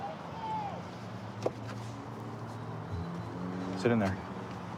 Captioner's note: indistinct shouting; vehicles driving